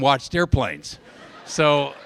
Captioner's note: laughter